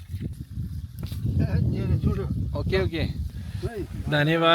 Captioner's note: speaking Nepali